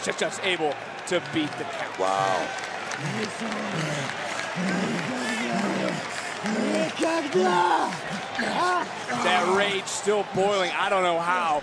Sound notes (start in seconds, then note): 5.6 foreign language